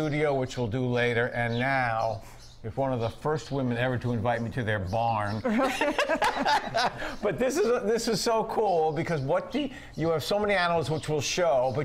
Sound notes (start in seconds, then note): 5.4 laughs